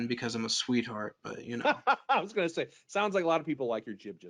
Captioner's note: laughs